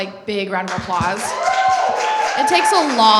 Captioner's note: applause